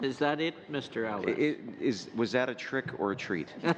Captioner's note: laughter